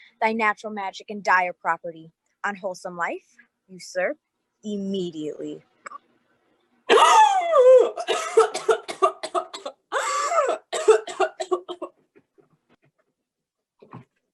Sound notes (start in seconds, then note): 7.4 King gasps; 7.8 King coughing